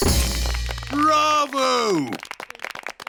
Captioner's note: applauding